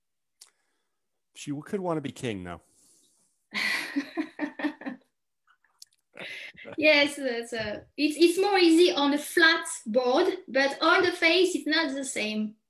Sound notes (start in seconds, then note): 3.6 chuckles